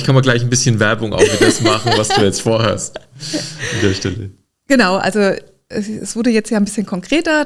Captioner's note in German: gelächter